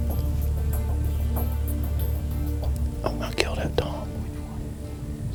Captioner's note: whispering